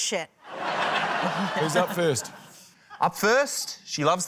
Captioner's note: laughter